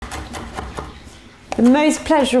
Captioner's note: knife thudding